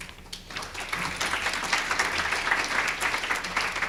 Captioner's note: applause